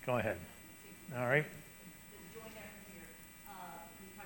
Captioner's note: person speaking off mic